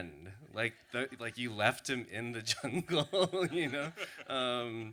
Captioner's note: laughs